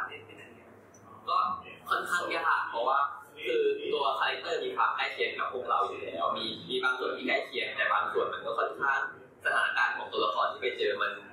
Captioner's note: answering in Thai